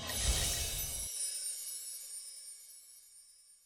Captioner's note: chimes ring